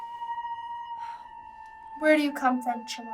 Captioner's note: Hannah sighs